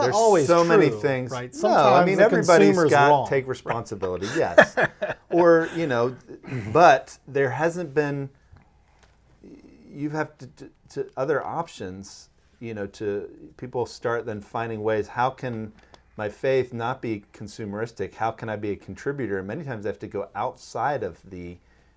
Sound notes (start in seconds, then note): 3.6 laughing